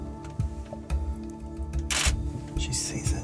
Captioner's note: camera clicks